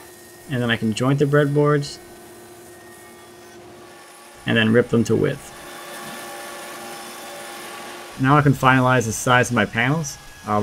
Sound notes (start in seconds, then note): 6.9 machine whirs